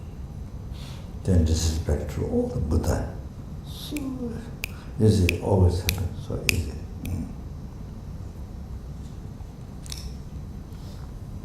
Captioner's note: snaps his fingers